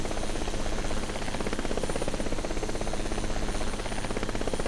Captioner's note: helicopter Sounds